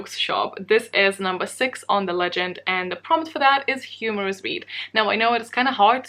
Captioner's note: humorous read